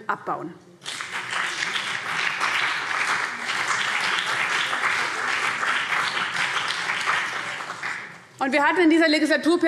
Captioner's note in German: Beifall